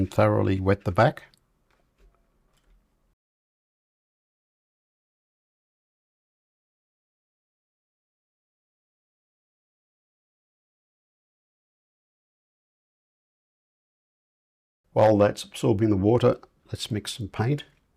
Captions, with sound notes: thoroughly wet the back. [silence] While that's absorbing the water, let's mix and paint.